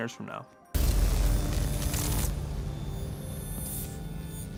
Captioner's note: electrical shocks